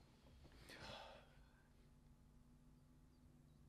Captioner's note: sighs